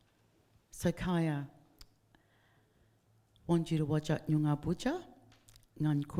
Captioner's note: speaking in foreign language